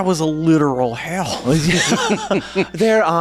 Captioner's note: laughing